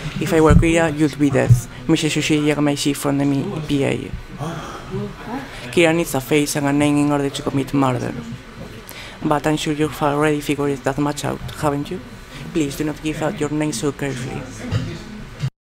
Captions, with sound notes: If I were Kira, you'd be dead Mr Soichiro Yagami-chi from the MPA. [ALL GASP] Kira needs a face and a name in order to commit murder. But I'm sure you've already figured that much out, haven't you? Please, do not give out your names so carelessly.